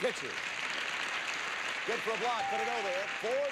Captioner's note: audience applauding